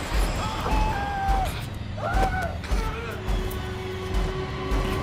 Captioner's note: tense frightening music; Rufus screams; tense frightening music